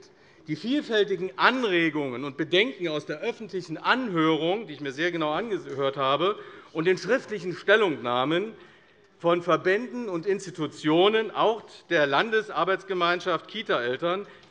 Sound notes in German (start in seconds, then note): none